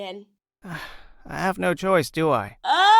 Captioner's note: sigh